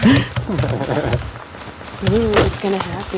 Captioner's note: laughing